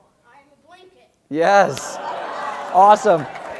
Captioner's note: applause